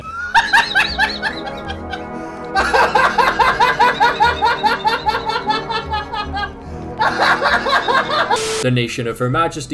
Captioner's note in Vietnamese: insert tiếng cười